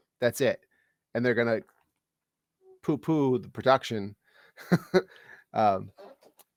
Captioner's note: scoffs